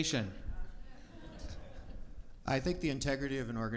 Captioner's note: audience murmurs